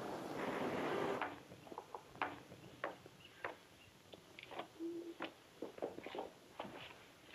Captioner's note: heels clack; birds chirp